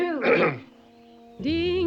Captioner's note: Adam clears throat